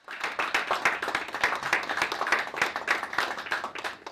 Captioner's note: audience applauds